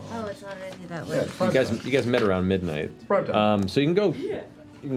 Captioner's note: none